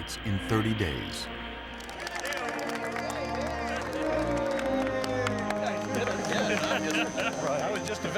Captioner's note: cheering